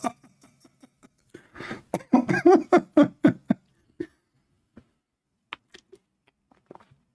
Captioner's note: Ketawa